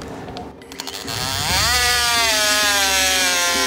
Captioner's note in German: Lautes Sägegeräusch